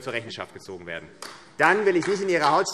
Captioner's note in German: Beifall AfD